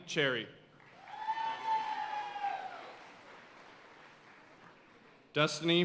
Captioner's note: audience cheering and applauding